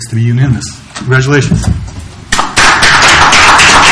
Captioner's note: applause